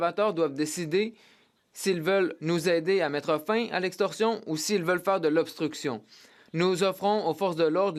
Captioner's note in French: voix de l'interprète